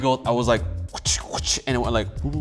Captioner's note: imitating slapping noises